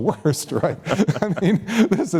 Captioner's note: laughter